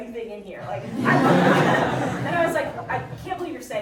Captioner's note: audience laughing